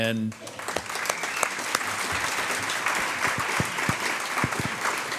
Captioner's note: audience applauds